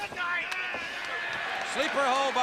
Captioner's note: crowd cheering